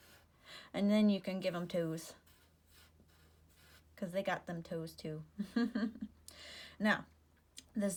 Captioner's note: giggle